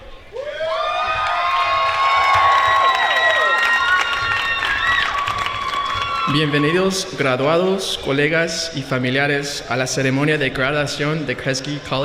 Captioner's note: applause